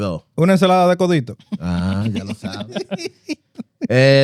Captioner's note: speaking Spanish; laughter